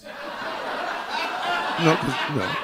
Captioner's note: audience laughing